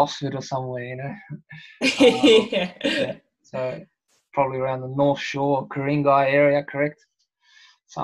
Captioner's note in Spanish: Risas